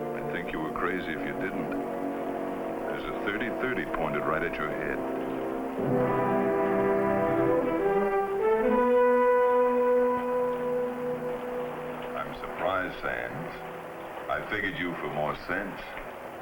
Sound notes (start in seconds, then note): 5.9 rain pattering; 5.9 suspenseful music